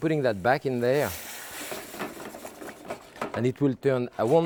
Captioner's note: pan sizzling